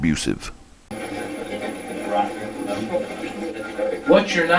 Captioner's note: static playback transmitting